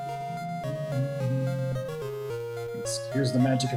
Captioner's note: humming along